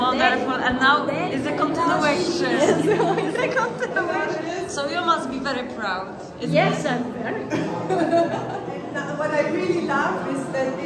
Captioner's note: śmiech